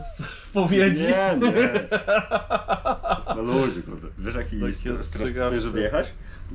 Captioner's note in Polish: śmiech